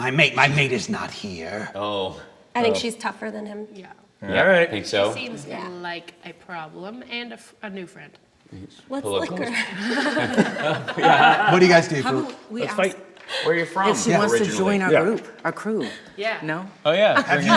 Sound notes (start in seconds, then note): 9.5 hearty laughter